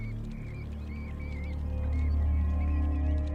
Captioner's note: squeaking